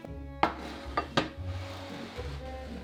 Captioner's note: pan sliding